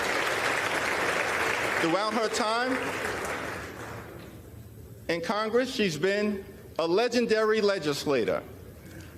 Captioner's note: applause